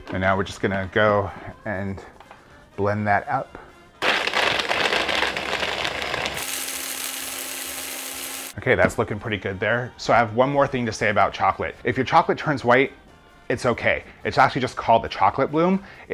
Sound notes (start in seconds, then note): 4.0 blender buzzing